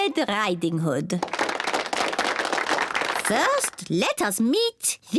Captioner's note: applause